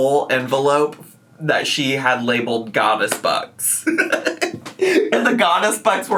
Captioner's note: laughs